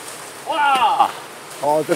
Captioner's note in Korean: 감탄